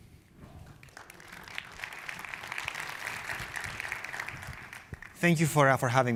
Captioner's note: applause